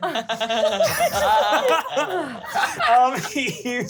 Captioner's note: laughs